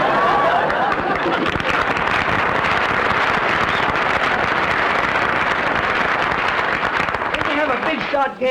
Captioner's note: applause